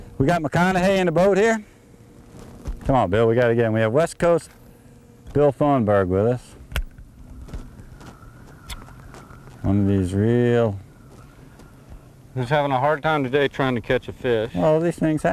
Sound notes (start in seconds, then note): none